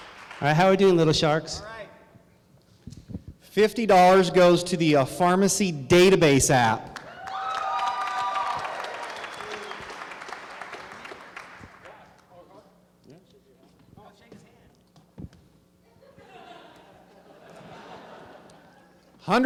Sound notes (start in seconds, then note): 7.0 crowd cheering; 15.8 laughter